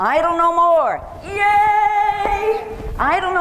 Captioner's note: cheers